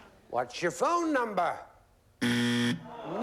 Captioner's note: buzzer